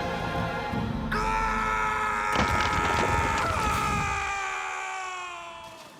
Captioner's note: screaming